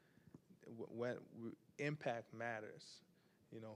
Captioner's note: stammers